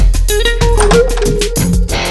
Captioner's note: Door opening